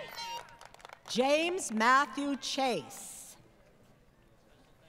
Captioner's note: applause